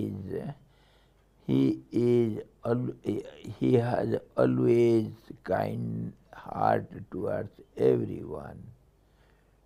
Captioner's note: sanskrit